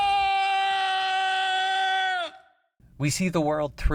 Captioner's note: still screaming